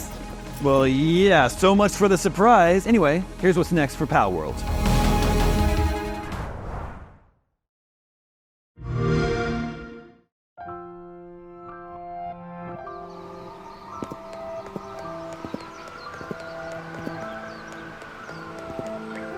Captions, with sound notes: Well, yeah. So much for the surprise. Anyway, here's what's next for Palworld. [XBOX SOUND] [LIGHT MUSIC]